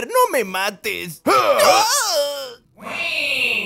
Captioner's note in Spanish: ahhhhhhh